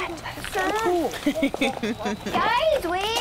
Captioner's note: woman laughing